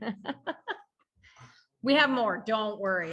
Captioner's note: laughing